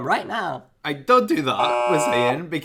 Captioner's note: buzzer buzzes